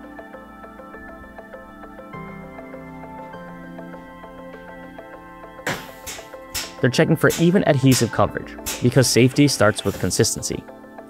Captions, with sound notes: (gentle music) (machine clicking) They're checking for even adhesive coverage because safety starts with consistency.